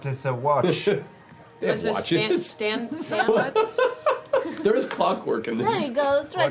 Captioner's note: laughs